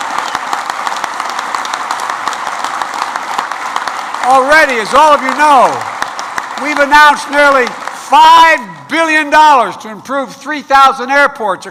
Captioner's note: applause